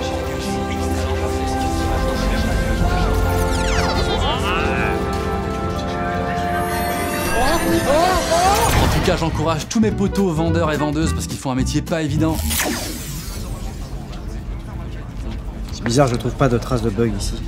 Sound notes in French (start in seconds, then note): 0.0 même fond sonore accompagné de bruitages numériques; 7.7 cris de surprises